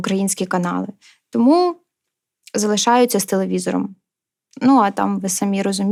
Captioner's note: Russian